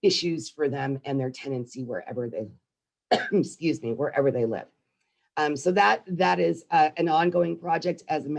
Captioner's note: coughs